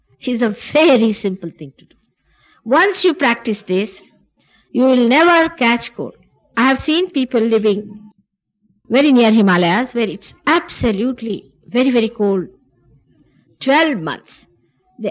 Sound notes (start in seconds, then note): none